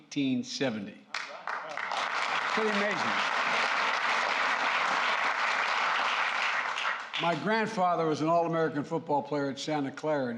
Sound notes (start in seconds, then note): 3.5 applause